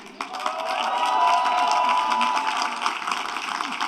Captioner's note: applause